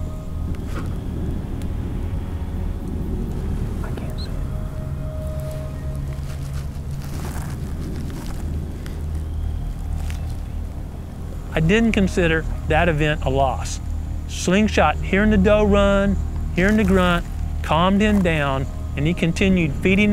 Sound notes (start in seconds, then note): 2.1 whispering